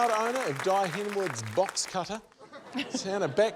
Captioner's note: laughter